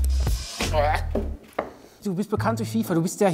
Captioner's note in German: Lässige Musik; Würgen